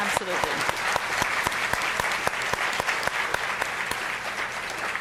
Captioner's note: audience applauding